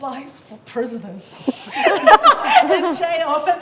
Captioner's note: laughs